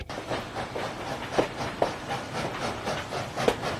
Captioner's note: train chugging